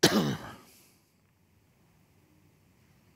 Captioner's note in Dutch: stilte